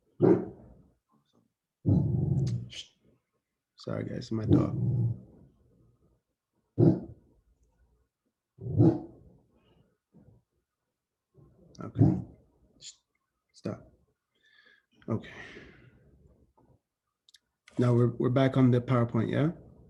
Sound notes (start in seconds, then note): 0.2 dog growls; 4.7 dog barking